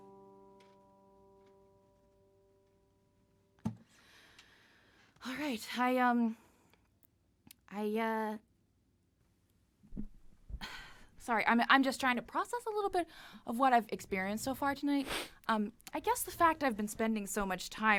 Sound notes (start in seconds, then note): 9.7 exasperated exhale